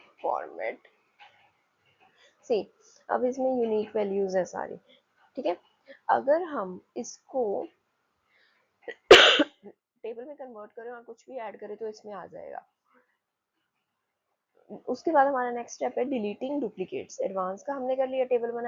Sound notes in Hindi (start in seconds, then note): 8.9 खांसने की आवाज़